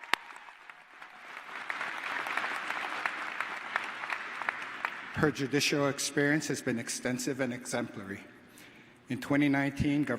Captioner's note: applause